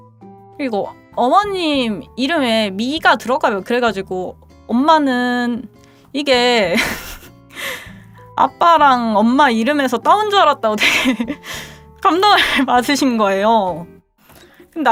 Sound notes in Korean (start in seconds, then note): 6.7 웃음